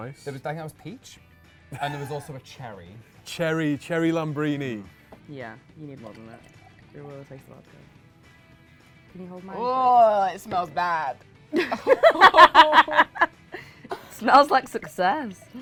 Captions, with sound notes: - I think that was peach. And there was also a cherry. - Cherry, cherry lambrini. - Yeah, you need more than that, or you'll taste vodka. Can you hold mine, please? - Eurgh, it smells bad. (laughs) - Smells like success.